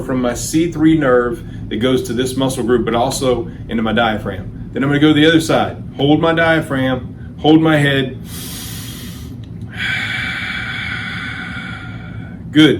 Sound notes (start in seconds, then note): 9.6 inhales; 9.9 exhales